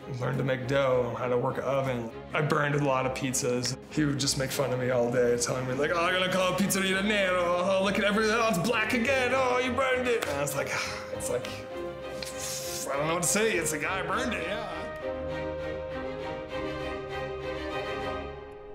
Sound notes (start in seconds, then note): 6.7 speaks foreign language; 15.0 lively orchestral music